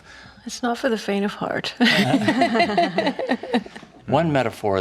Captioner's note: laughing